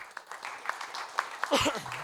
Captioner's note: audience applauding